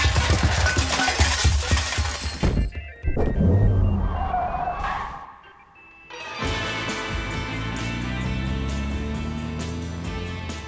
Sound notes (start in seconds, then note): 0.0 overlapping crashes, thuds; 3.4 car revving, tires screeching; 6.0 uplifting music